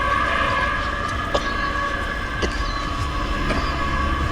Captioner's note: coughing